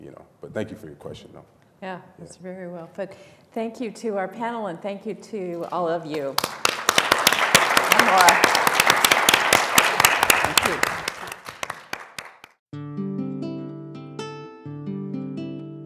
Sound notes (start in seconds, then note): 6.2 applause